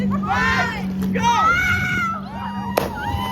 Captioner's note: more screaming in terror